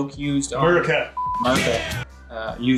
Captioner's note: beep